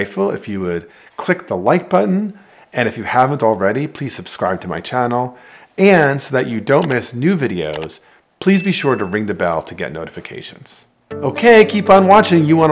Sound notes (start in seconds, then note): 6.7 mouse clicking; 8.6 bell ringing; 11.1 upbeat music